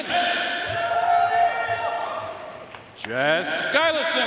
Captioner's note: audience cheering and applauding